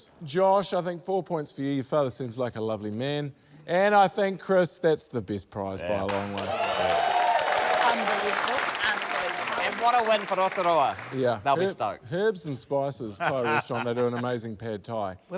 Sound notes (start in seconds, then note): 6.0 cheering, applause